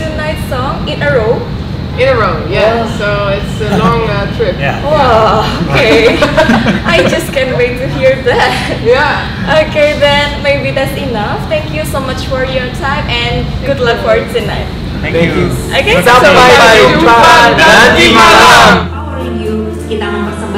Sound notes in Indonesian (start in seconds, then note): 5.4 tertawa